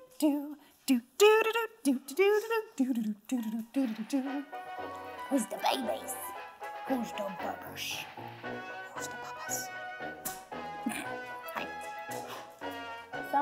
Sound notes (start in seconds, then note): 4.6 jazz music; 10.8 laughs